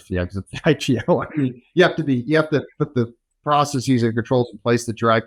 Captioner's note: laughs